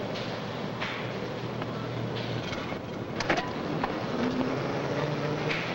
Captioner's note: machinery humming